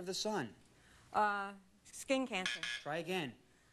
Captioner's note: buzzer